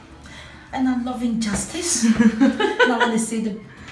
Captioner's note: laughter